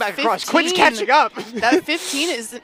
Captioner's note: chuckles